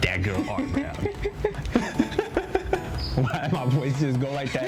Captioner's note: both laugh